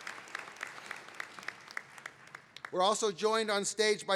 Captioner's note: applause and cheering